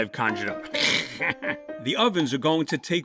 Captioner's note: snickers